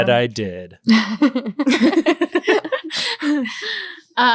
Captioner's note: laughing